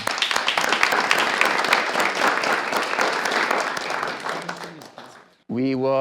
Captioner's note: clapping